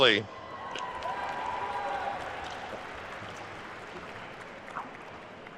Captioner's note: attendees cheering and applauding